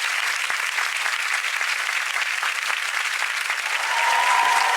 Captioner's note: audience applause